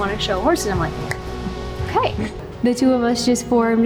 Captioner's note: clapping hands